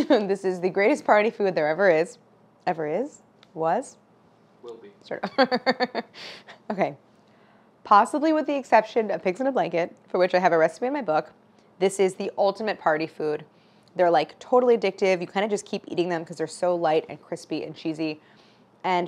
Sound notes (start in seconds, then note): 5.2 laughing